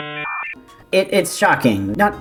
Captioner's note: dial-up noises